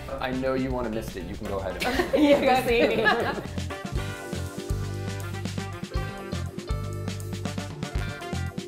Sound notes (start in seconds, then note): 1.8 laughs; 3.8 upbeat jazzy music